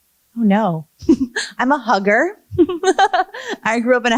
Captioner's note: laughs